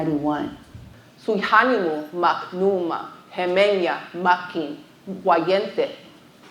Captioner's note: speaking foreign language